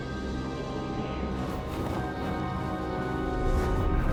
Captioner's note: ominous music; wind howling